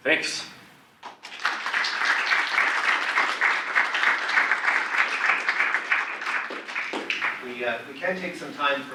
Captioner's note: audience applause